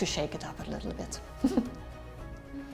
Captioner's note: chuckles